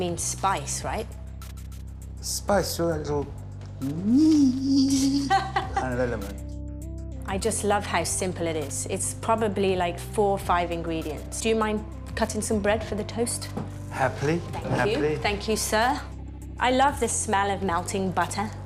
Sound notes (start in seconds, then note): 4.5 laughs